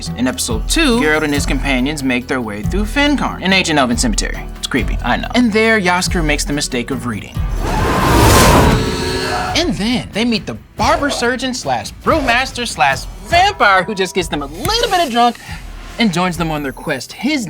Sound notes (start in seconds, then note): 7.4 wind whooshing; 7.5 Jaskier shrieking